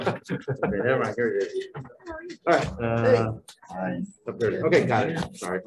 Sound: all laughing; group chattering

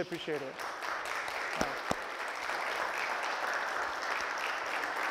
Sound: applause

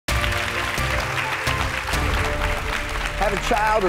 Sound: audience claps

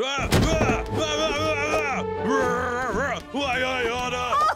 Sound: imitating Donald's tantrums

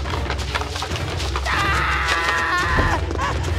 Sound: screaming

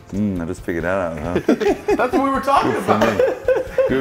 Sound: laugh

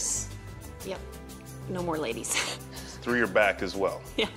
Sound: chuckles

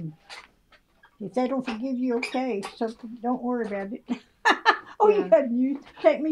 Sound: laughs

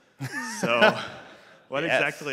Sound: laughter

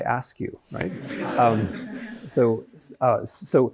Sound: students laugh

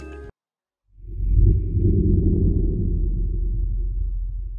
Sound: tones booming

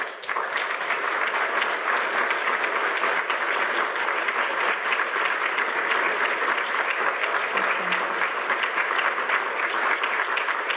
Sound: applause

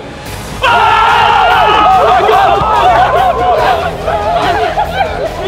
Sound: everyone cheering

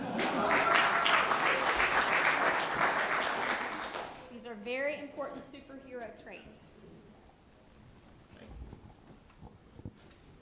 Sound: applause

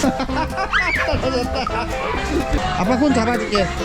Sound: laughing

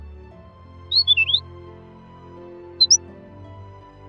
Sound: chirps enthusiastically

